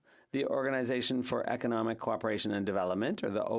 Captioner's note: speaking French